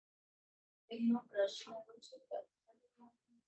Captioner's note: non-english speech